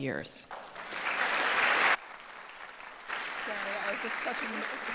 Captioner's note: audience applauding